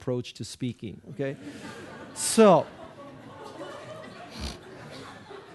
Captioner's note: audience laughing